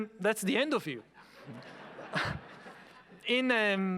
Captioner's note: audience laughing